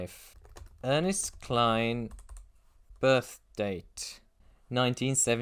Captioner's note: typing